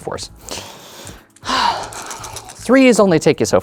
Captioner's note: sighs; dice rattling; dice rolling